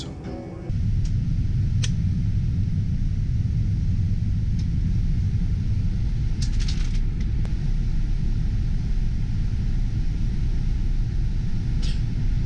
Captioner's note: sounds airplane turbines